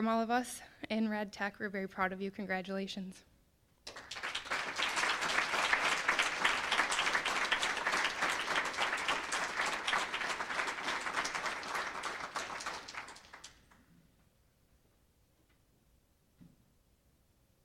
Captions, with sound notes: FROM ALL OF US IN RAD TECH, WE'RE VERY PROUD OF YOU. CONGRATULATIONS. (applause)